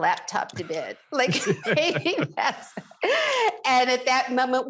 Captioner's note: both laughs